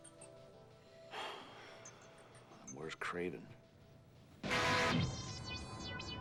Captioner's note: puffs